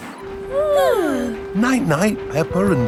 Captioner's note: both yawning